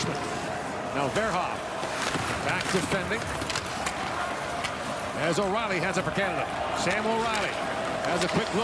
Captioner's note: cheering and Applause